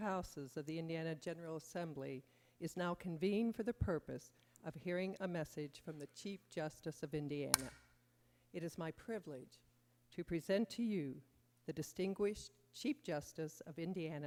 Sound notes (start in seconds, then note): 7.9 sounding gavel